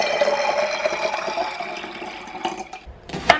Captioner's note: water pouring